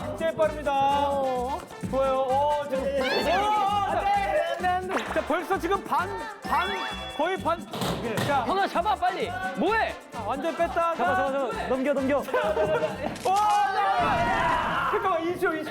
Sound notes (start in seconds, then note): 1.7 stumbling